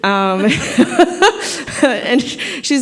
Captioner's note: laughter